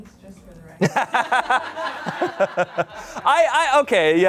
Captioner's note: audience laughing